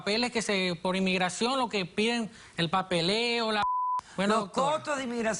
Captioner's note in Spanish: Bip